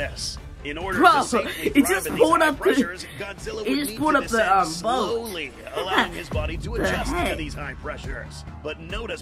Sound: laughs

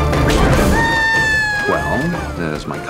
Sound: screams

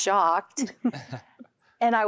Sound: giggling

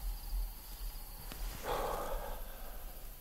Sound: exhales

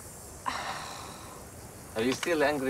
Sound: sighs

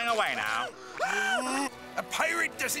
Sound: screaming

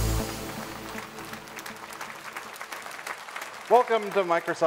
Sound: audience applauding

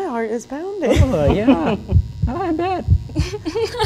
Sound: heart beating

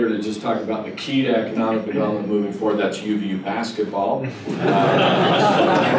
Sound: laughter

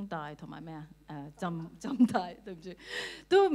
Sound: Cantonese

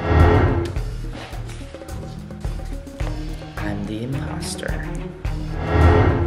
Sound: paper rustling

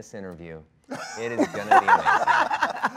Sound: Dwayne and Gal laughing

